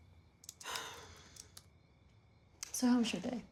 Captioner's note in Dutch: zucht